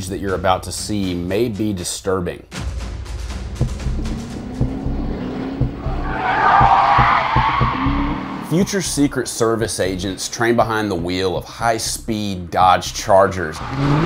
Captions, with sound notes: that you're about to see may be disturbing. [engine roars] [wheels screech] Future Secret Service agents train behind the wheel of high-speed Dodge Chargers.